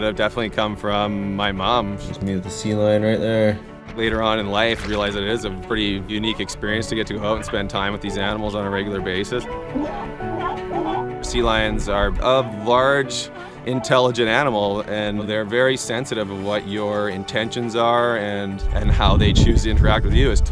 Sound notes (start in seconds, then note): 10.1 sea lions barking